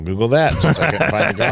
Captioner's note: laughing